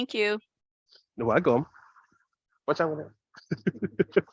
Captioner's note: chuckles